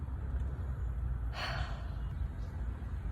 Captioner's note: deep sigh